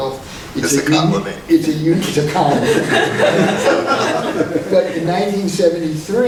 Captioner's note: laughing